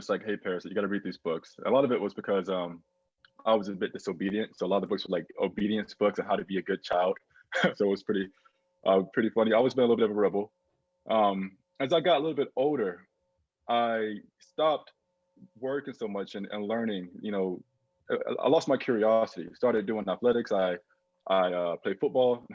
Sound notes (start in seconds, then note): 7.5 laughing